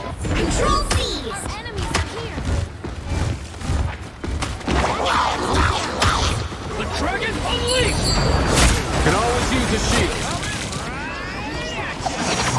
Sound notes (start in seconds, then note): 4.9 guns firing